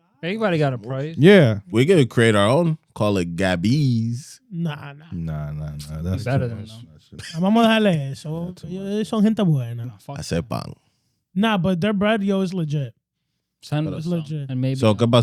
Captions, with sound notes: Everybody got a price? Yeah. We're gonna create our own, call it Gabby's. Nah, nah. Nah, nah, nah. (Speaking In Foreign Language) Nah, but their bradio is legit. San Luis. And maybe--